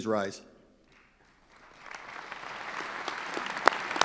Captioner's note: clapping